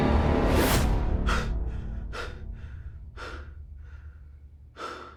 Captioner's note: Kent panting